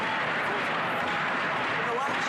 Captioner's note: chanting